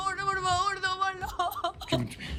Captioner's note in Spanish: Sollozos